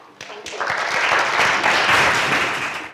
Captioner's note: applause